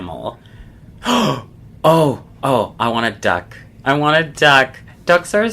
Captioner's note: gasps